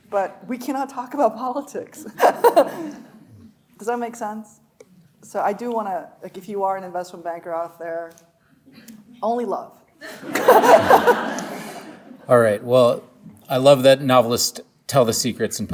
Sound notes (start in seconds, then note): 2.1 laughing; 2.1 audience laughing; 10.0 laughing; 10.0 audience laughing